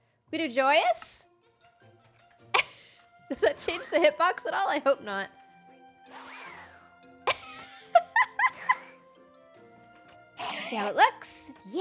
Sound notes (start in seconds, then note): 7.3 laughs